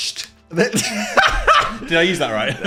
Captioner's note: laughs